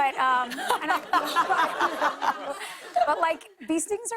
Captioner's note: laughter